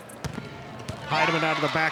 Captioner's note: ball thumping